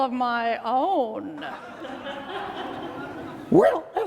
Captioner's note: laughing